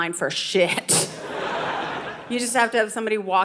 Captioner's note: audience laughing